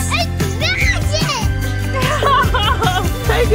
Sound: laughs; laughing

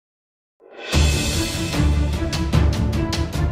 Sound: dramatic noise from earlier, now used for the outro

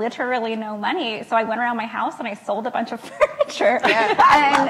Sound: laughs

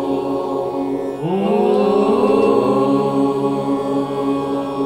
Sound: chanting

